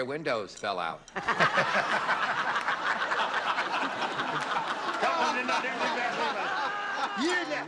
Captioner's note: laughter